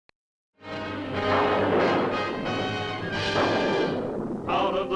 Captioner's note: thunderclap